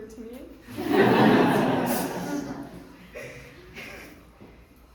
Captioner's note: audience laughing